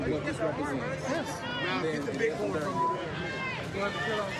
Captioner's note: indistinct chatter